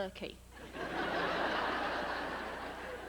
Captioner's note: laughter